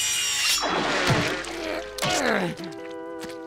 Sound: grunting

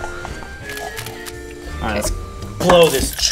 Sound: camera clicking

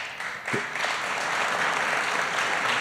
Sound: applause

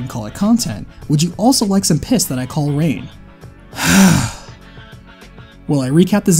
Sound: angry sigh

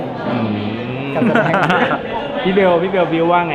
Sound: laughs

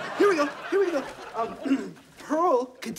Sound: clearing throat

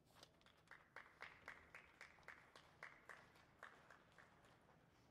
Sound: audience clapping

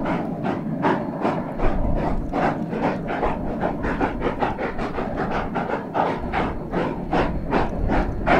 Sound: spirited chugging

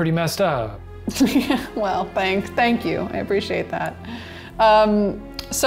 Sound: laughing

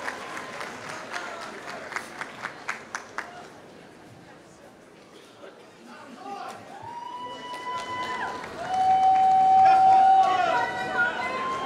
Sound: applause; applause

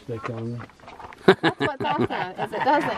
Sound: laughter

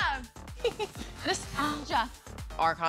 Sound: giggling

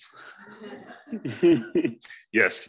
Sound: group laughs

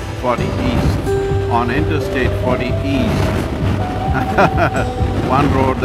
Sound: laughs

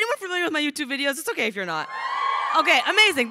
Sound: crowd cheering

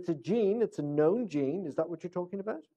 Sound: off microphone

